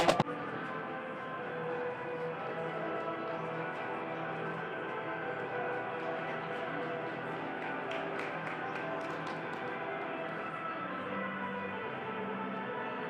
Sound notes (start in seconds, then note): 6.2 light applause